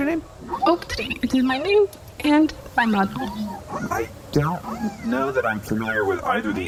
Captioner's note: hesitant